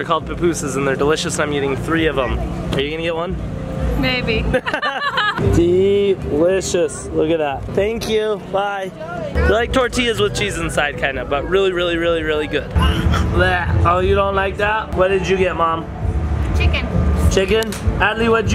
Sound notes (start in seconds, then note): 4.5 laughs; 12.7 gagging